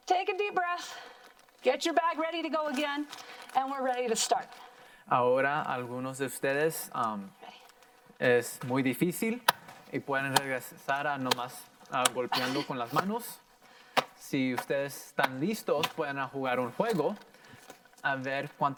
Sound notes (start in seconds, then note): 5.4 in foreign language; 9.5 plastic popping loudly; 11.2 in foreign language